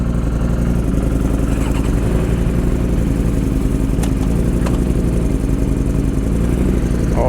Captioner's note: engine revving